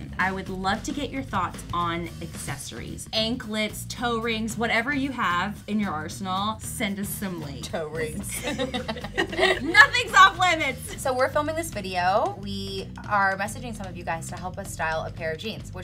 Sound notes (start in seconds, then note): 8.2 both laughs